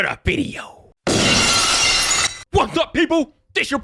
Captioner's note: glass shattering